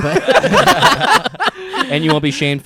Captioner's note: laughing